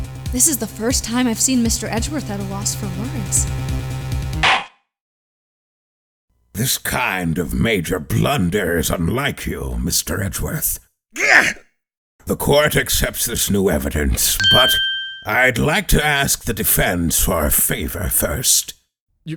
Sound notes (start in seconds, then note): 4.4 gavel slams!